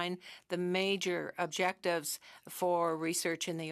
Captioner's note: speaking French